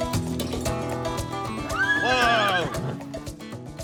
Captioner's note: horse neighing